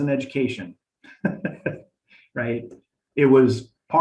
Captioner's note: laughing